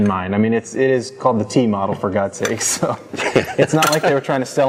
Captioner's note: laughter